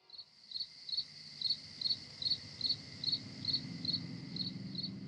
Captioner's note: insects chirping